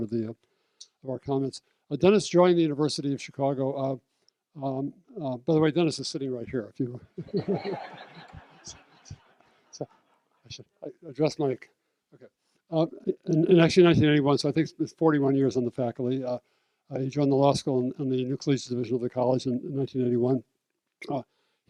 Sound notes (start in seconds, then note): 7.2 laughter